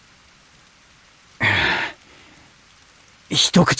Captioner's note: sigh